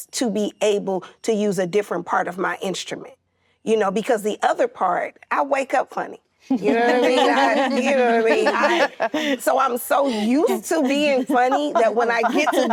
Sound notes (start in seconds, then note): 6.5 actresses laughing